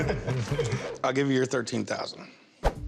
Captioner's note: laughter